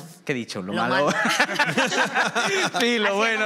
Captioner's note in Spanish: algunos ríen